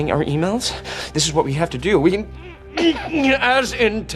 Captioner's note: grunting